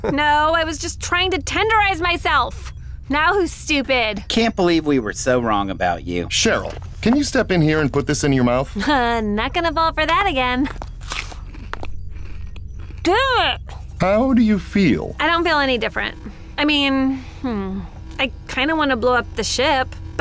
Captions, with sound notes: - No! I was just trying to tenderize myself! Now who's stupid? - Can't believe we were so wrong about you. - Cheryl, can you step in here And put this in your mouth? - Ha, not gonna Fall for that again. [munching] Damn it! - How do you feel? - I don't feel any different. I mean, hmm, I kinda want to blow up the ship,